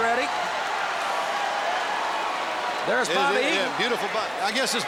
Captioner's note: applause